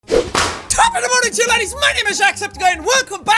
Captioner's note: wahpoosh